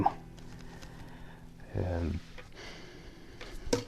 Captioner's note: deep sigh from manifestation